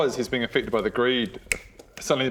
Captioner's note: click!